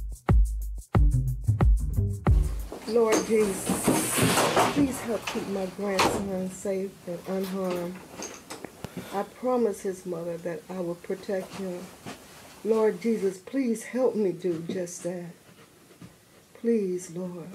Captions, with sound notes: - Lord Jesus. (loud scuffling) Please help keep my grandson safe and unharmed. I promised his mother that I would protect him. Lord Jesus, please help me do just that. Please Lord.